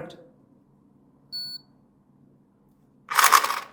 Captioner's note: Dorgard beeps; motor winds